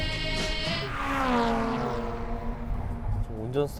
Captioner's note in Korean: 부아아아아아앙